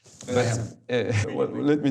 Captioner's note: chuckles